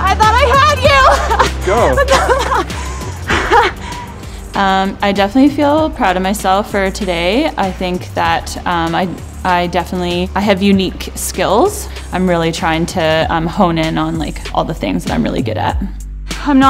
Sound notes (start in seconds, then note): 3.0 laughs